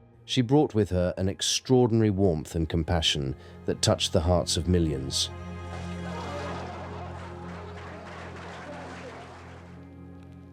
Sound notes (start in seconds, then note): 5.6 guests laugh and clap